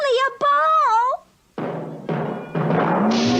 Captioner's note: bouncing